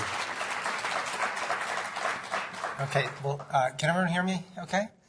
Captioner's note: applause